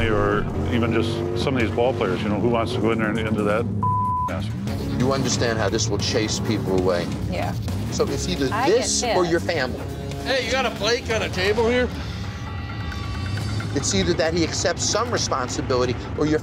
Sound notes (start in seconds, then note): 3.8 beep